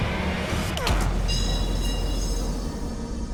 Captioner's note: clanging